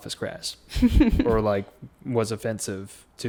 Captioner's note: laughs